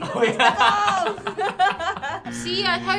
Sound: laughing

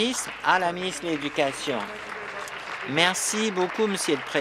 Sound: applause

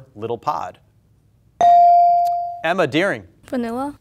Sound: buzzer pings

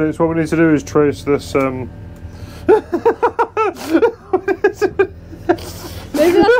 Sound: laughter

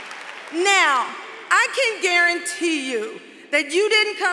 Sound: applause

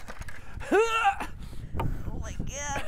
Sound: exaggerated groan

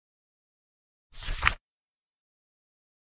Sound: sound of paper

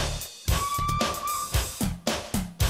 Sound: toot-Toot!

